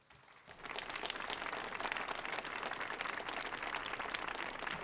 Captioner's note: audience applauds